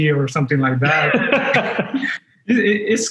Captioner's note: laughing